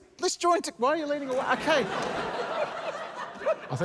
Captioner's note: laughter